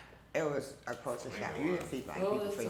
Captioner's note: family members chatter